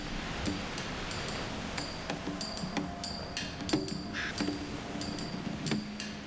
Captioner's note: cawing